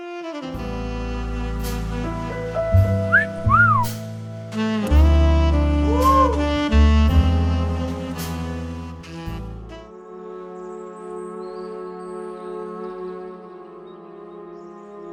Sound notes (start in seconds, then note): 0.3 sexy music plays; 3.1 wolf Whistle